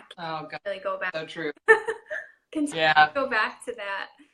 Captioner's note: speaker garbling